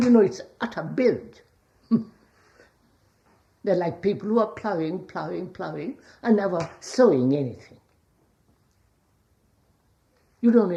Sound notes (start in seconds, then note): 2.4 laughs